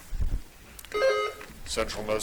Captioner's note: buzzer dings